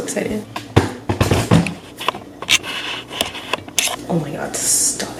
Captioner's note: tripod and lens making noise